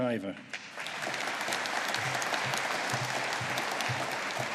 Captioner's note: audience applauding